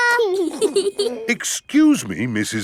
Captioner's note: both giggling